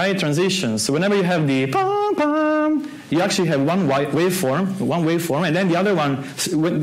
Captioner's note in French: fait les sons